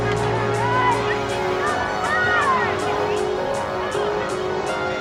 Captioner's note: distant shouting